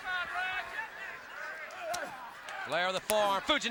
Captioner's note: crowd chatter